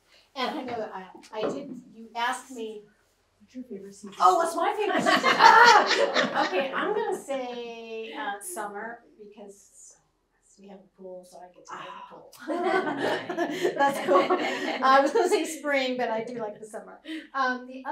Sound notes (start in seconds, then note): 4.8 laughter; 12.4 laughs